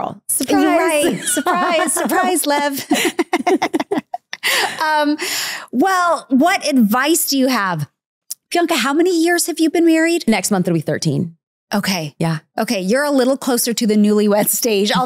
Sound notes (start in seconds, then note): 2.8 both laughing